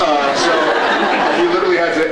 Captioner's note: laughs